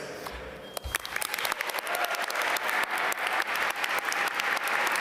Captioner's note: audience applaud